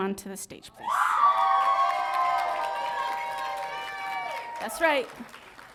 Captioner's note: audience cheering